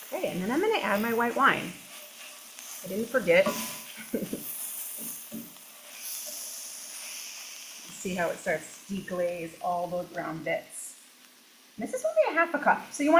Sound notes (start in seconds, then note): 3.9 chuckles; 4.7 food sizzling